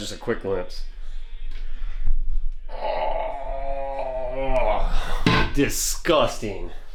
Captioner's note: groans